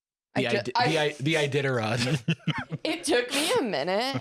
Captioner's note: laughs